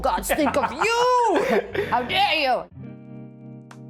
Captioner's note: laughs